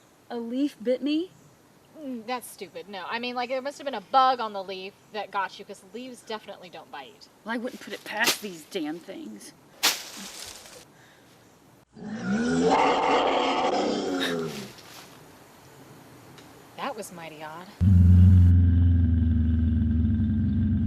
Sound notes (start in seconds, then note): 11.9 growl; 17.8 low growl